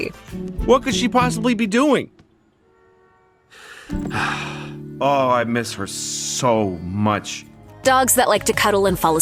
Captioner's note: sighs